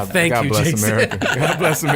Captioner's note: laughing